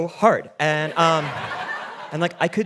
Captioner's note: audience laughing